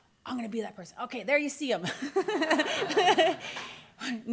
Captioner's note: laughter